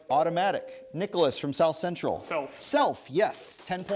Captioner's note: ding